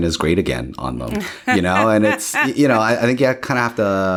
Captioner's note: laughs